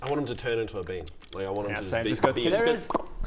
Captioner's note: pop